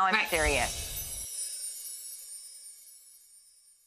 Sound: chime sounds

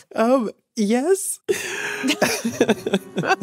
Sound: both laugh

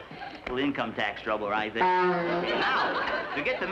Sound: horn blows

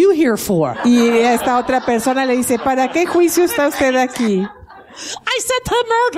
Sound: laughing

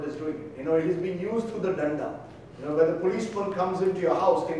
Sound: speaking in foreign language

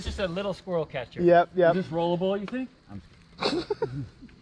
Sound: all laugh

